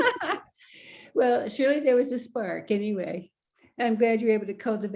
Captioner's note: laughter